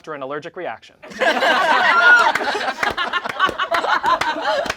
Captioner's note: all laugh